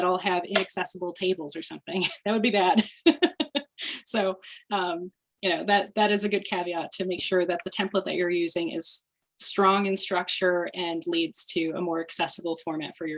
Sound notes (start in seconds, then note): 2.7 laughter